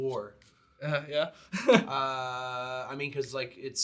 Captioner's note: chuckles